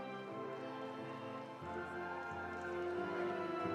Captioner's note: audience applauding; audience cheering